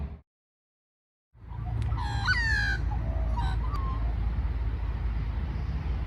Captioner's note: magpie song